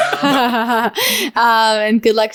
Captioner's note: laughing